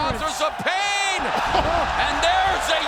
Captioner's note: fans cheering